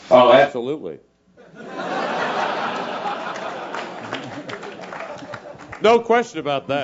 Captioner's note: laugh